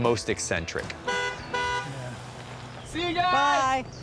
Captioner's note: honks horn